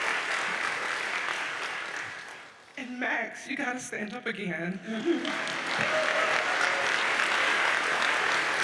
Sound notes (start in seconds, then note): 5.1 audience applauds